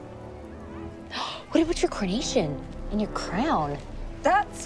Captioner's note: gasps